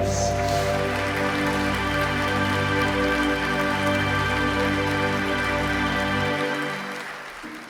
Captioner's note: audience applause